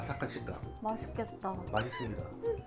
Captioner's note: drooling